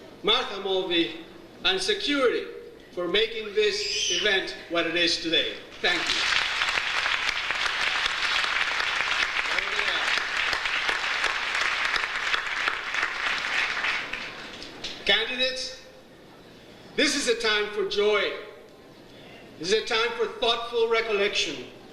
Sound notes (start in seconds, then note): 7.6 audience applauds